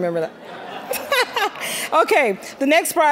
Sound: all laughing

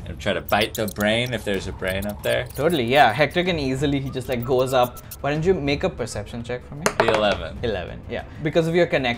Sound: none

